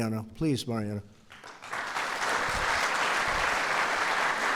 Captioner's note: applause